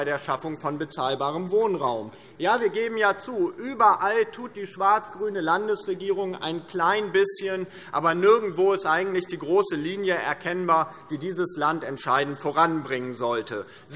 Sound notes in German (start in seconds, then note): none